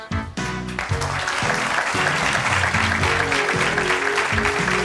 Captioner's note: funky jazz music; audience applauding